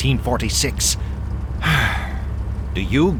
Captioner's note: sighs wearily